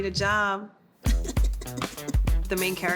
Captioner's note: chuckling